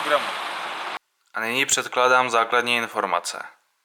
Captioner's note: in Czech, English and Polish